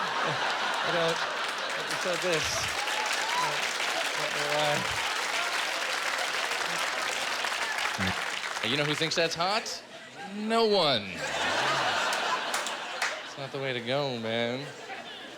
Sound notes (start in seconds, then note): 1.7 applause; 11.1 laughter